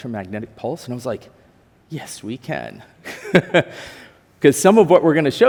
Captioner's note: chuckles